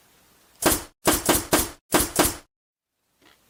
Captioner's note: nail Gun Sounds